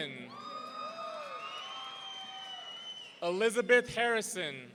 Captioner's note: audience cheering